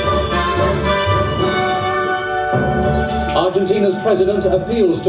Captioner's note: SFX - Reversing Timeline